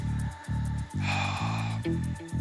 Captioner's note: sighs